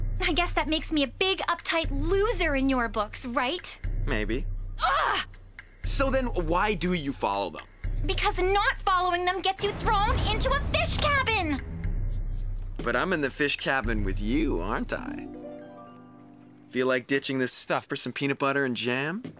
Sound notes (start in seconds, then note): none